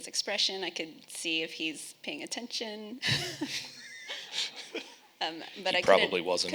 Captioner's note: laughing